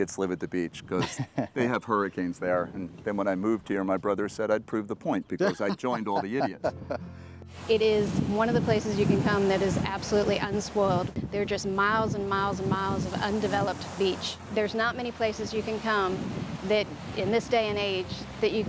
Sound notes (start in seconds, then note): 5.4 laughs